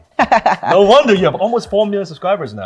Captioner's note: laughing